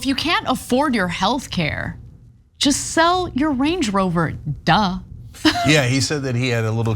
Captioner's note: laugh